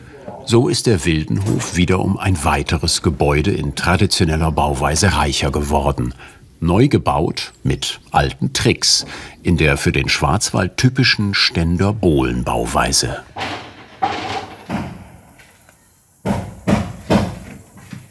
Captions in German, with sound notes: So ist der Wildenhof wieder um ein weiteres Gebäude in traditioneller Bauweise reicher geworden. Neu gebaut mit alten Tricks in der für den Schwarzwald typischen Ständer-Bohlen-Bauweise. (Scheppern) (Hämmern)